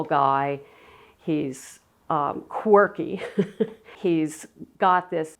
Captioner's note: chuckles